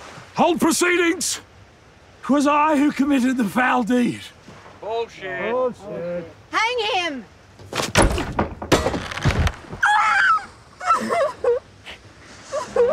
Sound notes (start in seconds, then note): 7.6 crunch, thud; 10.8 sobbing